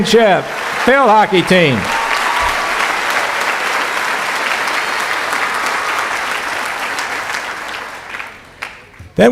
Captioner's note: cheering; cheering